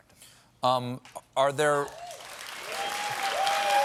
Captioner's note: applause